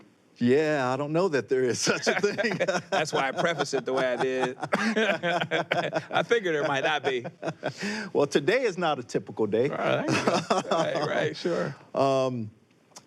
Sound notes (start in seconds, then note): 5.4 laughs; 9.7 laughs